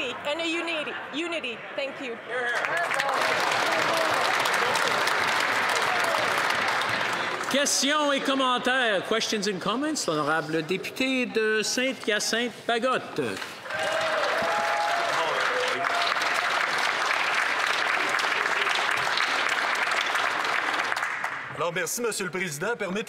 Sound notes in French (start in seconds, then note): 11.0 voix de l'interprète; 18.1 applaudissements